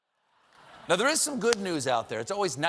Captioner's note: laughter